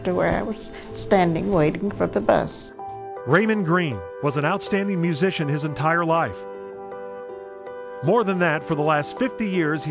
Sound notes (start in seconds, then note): 3.6 voiceover